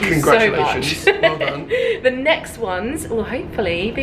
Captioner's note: laughing